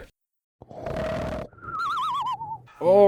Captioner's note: sleeping noises